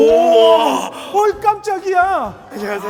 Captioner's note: in a theatrical tone